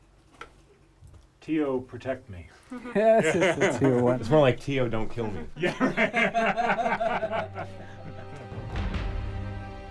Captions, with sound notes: TIO, PROTECT ME. [laughs] - YES, THAT'S WHAT TIO WANTS. - IT'S MORE LIKE, "TIO, DON'T KILL ME." - YEAH, RIGHT? [laughter]